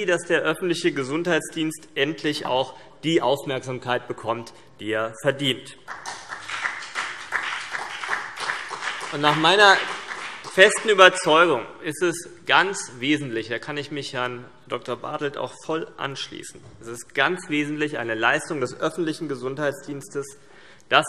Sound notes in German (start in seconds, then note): 5.8 Beifall CDU und BÜNDNIS 90/DIE GRÜNEN